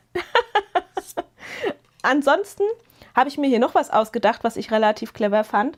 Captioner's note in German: gelächter